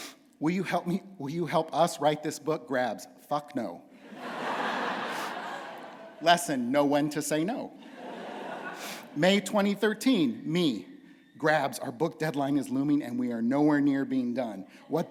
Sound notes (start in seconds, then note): 4.0 laughter